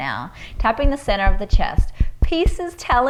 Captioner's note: taps